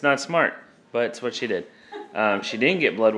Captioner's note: laughs